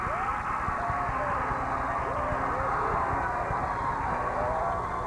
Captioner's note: cheers and applause